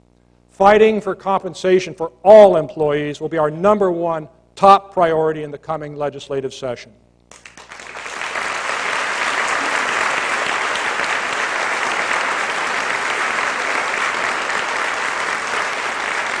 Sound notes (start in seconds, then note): 7.4 applause